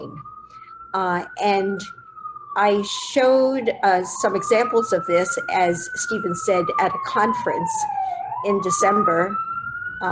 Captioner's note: sirens in background